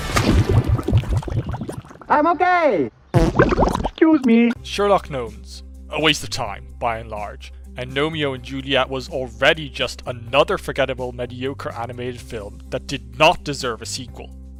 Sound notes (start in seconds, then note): 0.0 splashes; 3.1 farts